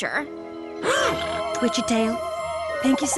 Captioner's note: gasps